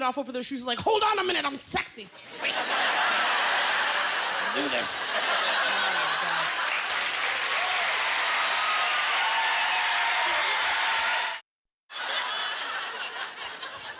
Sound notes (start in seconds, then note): 2.2 laughter; 4.7 cheers and applause